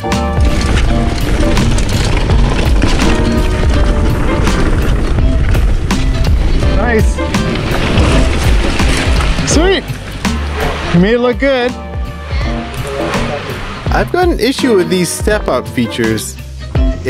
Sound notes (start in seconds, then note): 0.7 tires rumbling on the ground